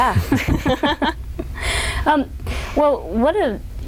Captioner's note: laughter